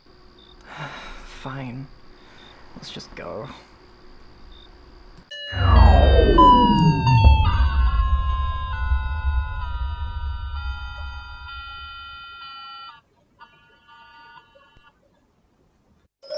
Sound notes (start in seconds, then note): 0.5 sighs; 5.5 power winds down